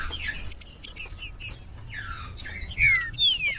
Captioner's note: trinca ferro cantando